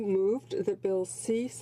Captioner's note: speaking French